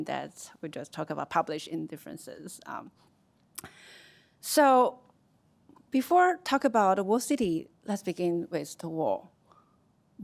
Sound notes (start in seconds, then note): none